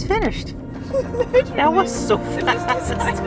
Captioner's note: laughs